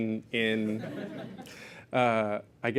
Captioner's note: laughter